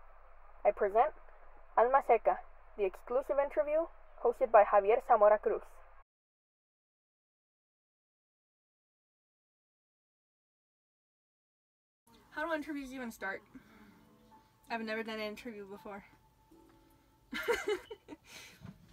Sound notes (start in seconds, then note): 17.4 laughs nervously